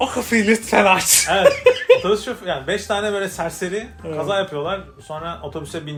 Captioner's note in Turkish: kahkaha